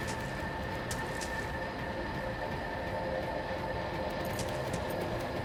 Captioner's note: footsteps crunching